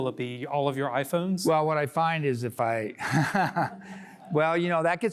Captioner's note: laughter